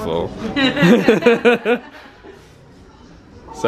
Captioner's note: people laugh